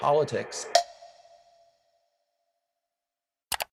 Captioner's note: timer snicks